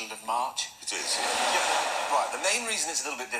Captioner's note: crowd Laughs